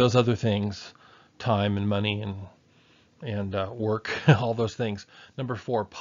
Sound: chuckles

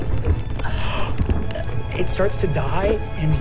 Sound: gasps

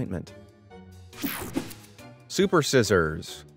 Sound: transition zapping

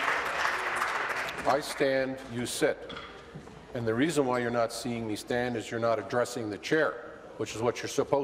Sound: applause

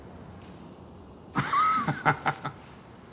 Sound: laughter

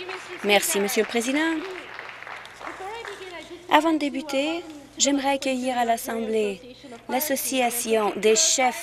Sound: applause

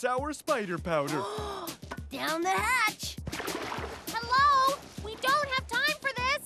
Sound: gasping

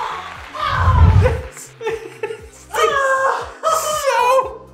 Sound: giggling

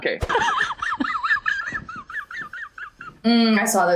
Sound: woman laughs

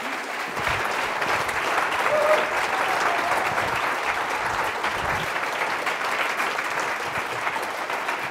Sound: applause

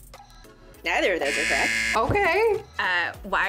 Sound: buzzer rings

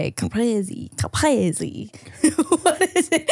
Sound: laughing

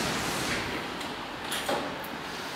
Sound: door opens

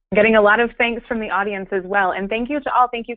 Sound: voiceover

